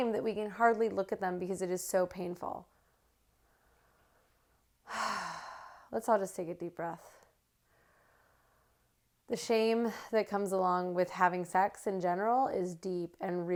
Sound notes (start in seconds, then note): 2.9 sigh